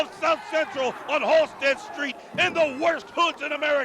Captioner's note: crowd chatter